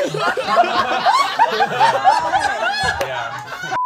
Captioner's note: all laughing